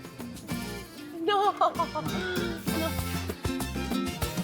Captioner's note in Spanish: Risa nerviosa